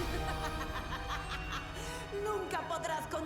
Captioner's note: sinister laughter